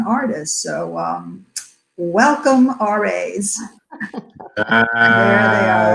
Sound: laugh

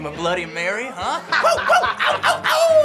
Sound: Ben laughs; howls

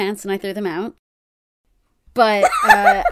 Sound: laughs

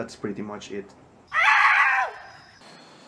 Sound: screams in spanish

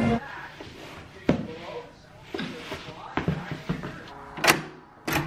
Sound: boots lightly stepping; door unlocking

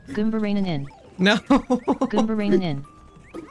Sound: laugh

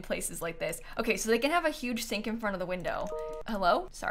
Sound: computer notification

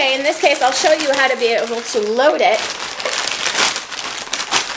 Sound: plastic crinkling

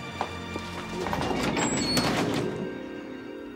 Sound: door slamming

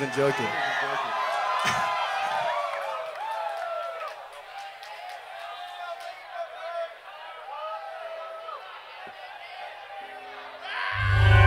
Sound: audience cheers

